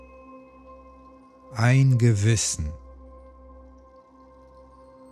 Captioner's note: german